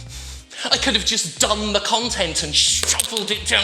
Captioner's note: fist smacks